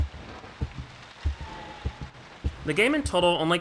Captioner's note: atmospheric noises, rain falls against the house